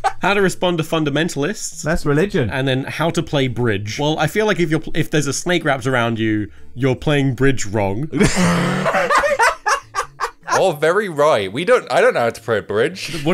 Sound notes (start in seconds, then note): 0.0 all laugh; 8.2 laughs